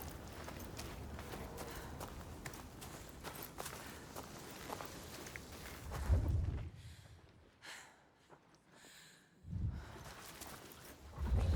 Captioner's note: footsteps